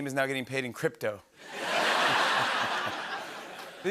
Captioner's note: laughter